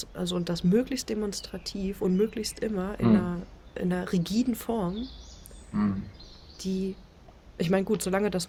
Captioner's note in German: räuspern